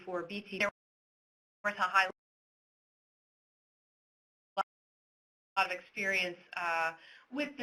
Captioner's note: audio cuts out